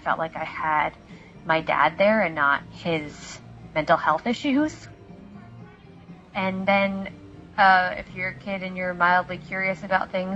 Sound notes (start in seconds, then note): none